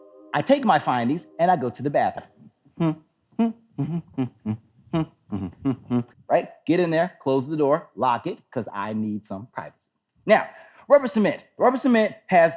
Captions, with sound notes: I take my findings and I go to the bathroom. [humming "The Smurfs" theme song] Right. Get in there, close the door, lock it cause I need some privacy. Now, rubber cement. Rubber cement has